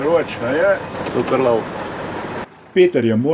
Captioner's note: engine